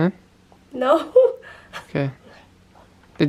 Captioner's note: laughs nervously